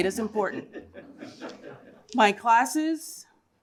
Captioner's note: laughter